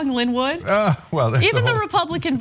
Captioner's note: laugh